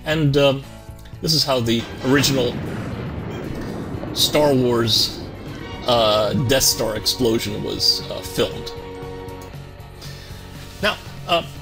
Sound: explosion

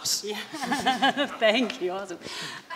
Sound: laughing

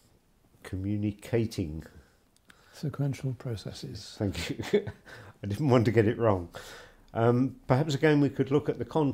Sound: laughs

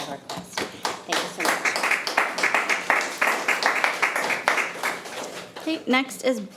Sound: attendees clapping

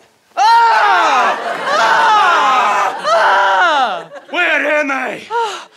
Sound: screaming

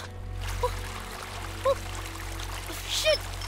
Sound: running water; wading in water

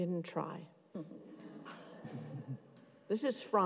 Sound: audience chuckling

